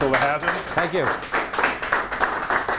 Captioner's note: applauding